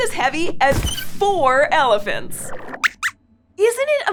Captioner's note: squeaks squeaks